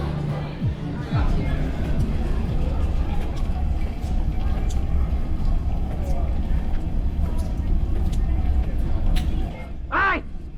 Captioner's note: busy station sounds